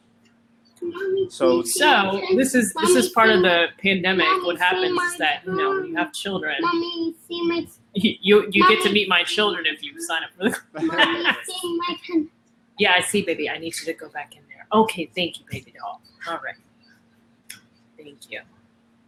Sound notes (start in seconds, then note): 10.4 laughter